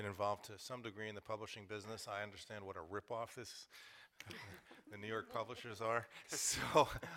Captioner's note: laughter